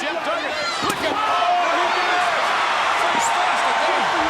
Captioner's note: crowd cheers